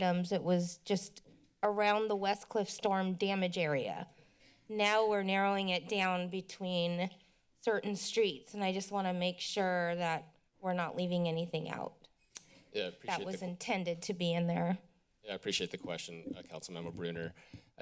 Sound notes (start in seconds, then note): 12.3 clicks tongue